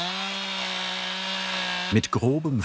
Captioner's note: chainsaw noises